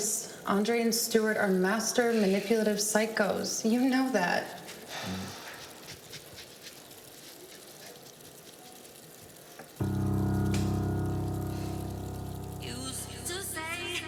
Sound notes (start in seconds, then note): 4.4 water splashing; 9.8 dramatic music